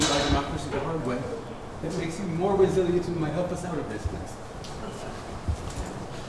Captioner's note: speaking faintly